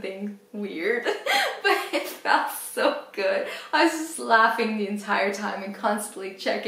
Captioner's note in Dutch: lacht